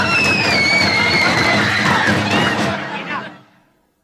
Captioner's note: Dinah screaming